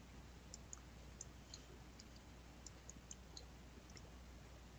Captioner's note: mouse clicking